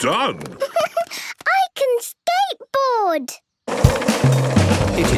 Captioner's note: giggles